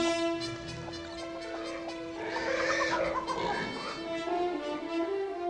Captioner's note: animal sounds